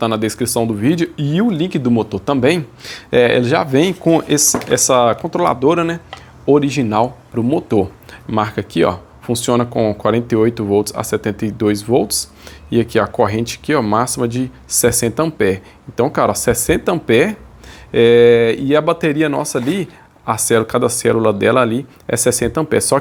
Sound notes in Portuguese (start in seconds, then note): none